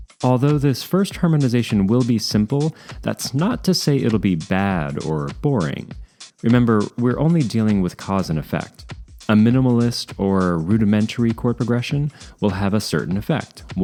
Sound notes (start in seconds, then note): none